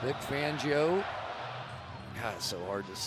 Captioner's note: crowd chanting "go packs go"